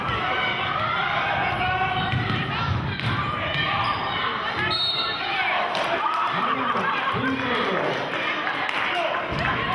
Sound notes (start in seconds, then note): 4.6 whistling